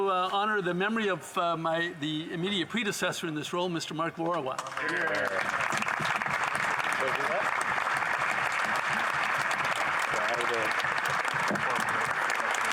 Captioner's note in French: applaudissements